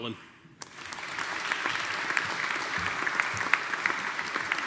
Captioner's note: audience applauding